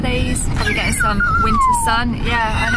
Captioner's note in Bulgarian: Скаут плаче